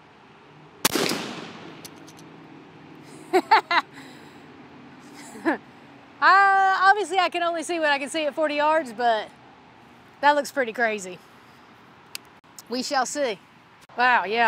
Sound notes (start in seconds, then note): 0.8 gunshot; 3.1 laughter